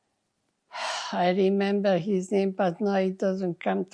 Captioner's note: sighing